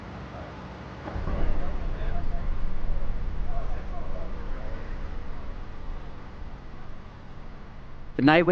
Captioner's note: music and construction noise continue